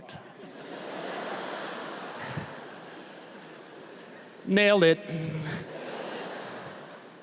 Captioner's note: laughter; laughter